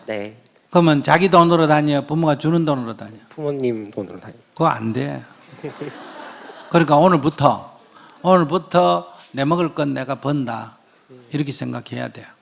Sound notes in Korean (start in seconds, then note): 5.3 질문자와 청중 웃음